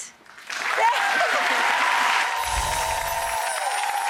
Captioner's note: audience cheering and clapping